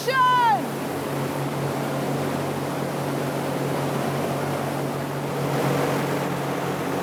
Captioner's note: fan roaring